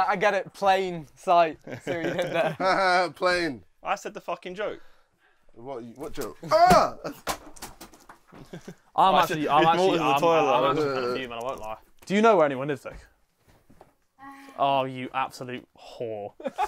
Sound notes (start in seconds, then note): 1.6 laughs; 8.2 screams